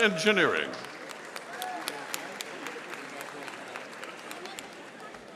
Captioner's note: audience applauding